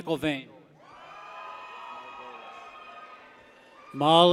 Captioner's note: people cheer